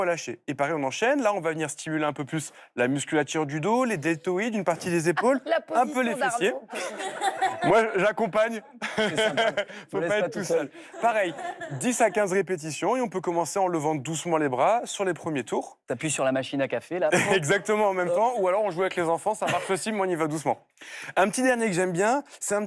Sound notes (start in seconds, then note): 6.3 laughter